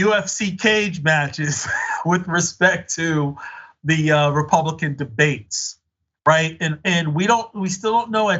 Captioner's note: laugh